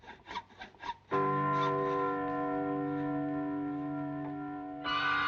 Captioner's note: church bells tolling